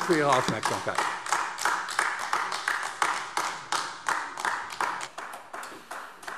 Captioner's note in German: Beifall AfD